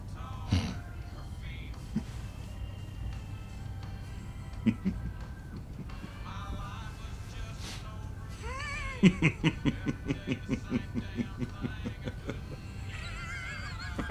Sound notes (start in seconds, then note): 4.6 Jock softly chuckles; 8.5 Jock laughing